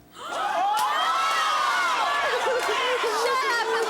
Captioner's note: audience yelling